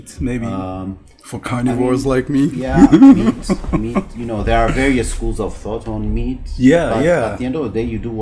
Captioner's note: laughs